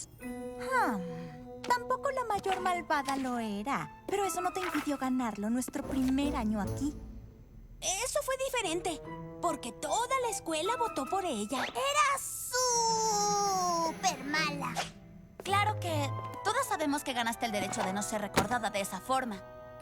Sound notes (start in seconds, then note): none